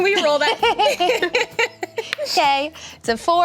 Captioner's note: laughing